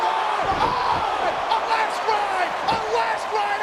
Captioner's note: audience cheers